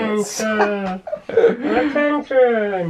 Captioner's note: laughter